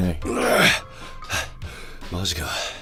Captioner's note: tired heavy breathing again